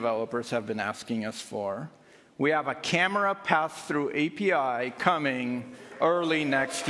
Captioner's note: applause